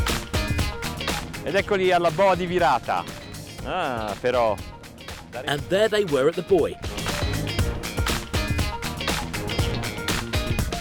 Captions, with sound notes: (speaks in foreign language) And there they were at the buoy. (lively music)